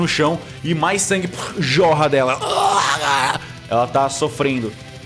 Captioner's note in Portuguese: grunhidos de dor